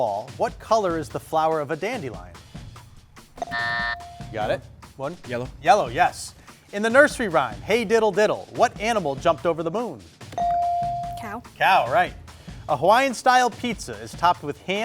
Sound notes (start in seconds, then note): 3.4 buzzer dings; 3.4 timer buzzes; 10.4 buzzer dings